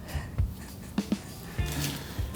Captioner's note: laughter